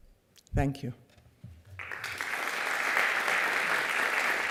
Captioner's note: applause